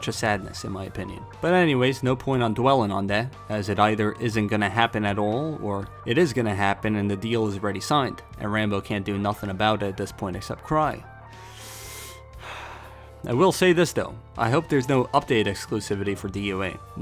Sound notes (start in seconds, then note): 12.3 sigh